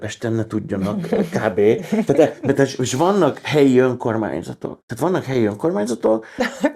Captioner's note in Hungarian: nevetés